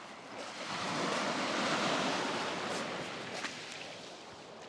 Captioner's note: waves crashing